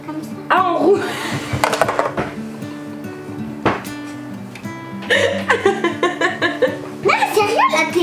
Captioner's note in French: rires